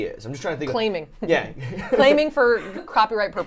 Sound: laughs

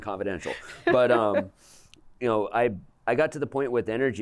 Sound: laughter

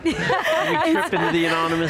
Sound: laughter

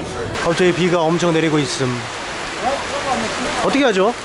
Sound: it suddenly rains

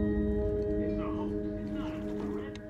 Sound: man on radio

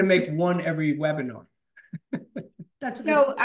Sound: laughs

